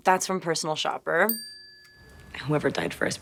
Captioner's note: graphic chiming